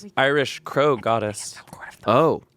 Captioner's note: whispering